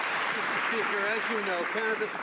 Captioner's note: some Applause